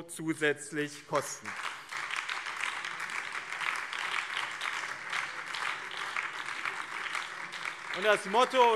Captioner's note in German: Beifall BÜNDNIS 90/DIE GRÜNEN und Freie Demokraten